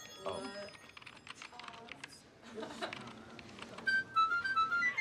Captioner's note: keyboard clattering; lighthearted flute playing